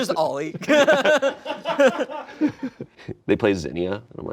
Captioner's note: laughing